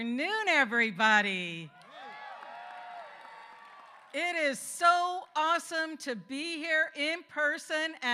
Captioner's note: applause